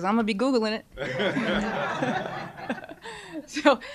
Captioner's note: laughter